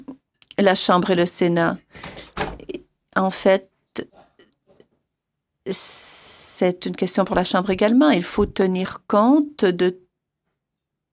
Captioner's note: speaking French